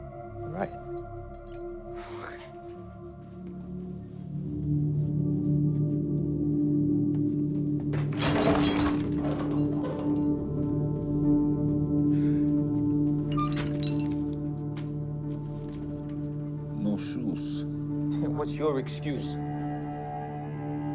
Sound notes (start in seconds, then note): 2.9 pensive music; 7.9 chain clattering; 8.2 pensive music